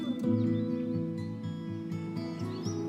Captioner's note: birds sing